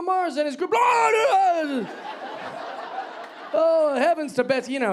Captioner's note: yelling